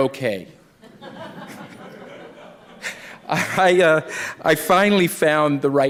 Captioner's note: laughter